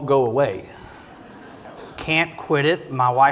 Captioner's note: audience quietly laughing